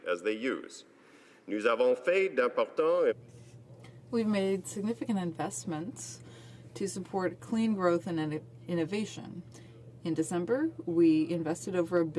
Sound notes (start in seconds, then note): 6.2 speaking French